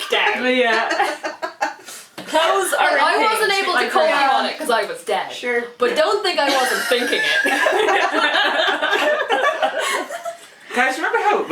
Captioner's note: laughter and crosstalk